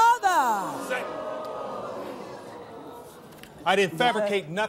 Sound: audience gasps

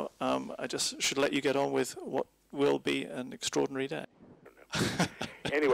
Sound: laughs

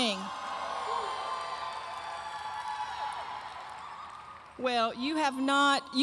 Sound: audience cheering loudly

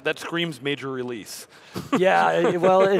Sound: chuckles

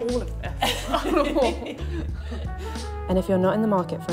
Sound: laugh

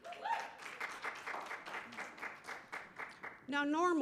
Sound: cheering

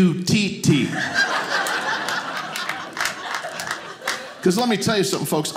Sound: audience laughing

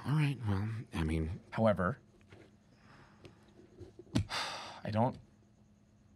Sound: sighs

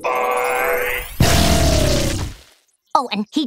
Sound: blasting

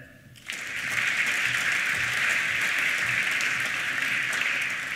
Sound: applause

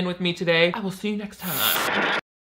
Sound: static buzzing

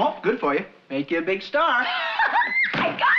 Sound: laughing

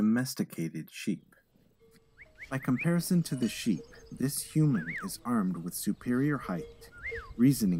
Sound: shepherd whistling

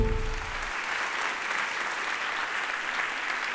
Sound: applause

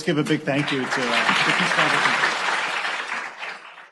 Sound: applause

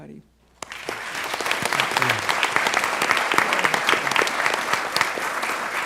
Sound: applause

